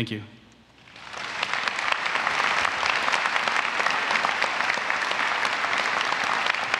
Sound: applause

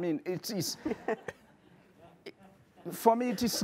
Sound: audience laughing

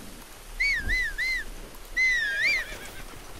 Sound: whistles for horse

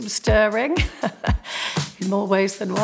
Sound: laughs

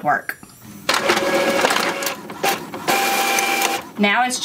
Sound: printer whirring

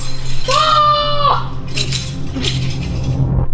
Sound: kiai

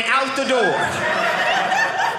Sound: audience laughing

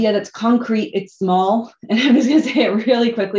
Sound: laughter

